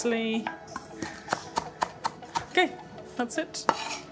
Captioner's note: knife chopping